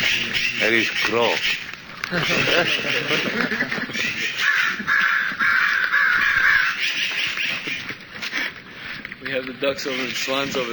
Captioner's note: laughter